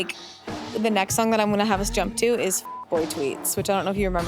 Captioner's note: beep